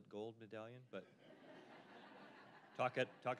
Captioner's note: audience laughing